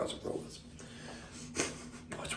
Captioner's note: chuckles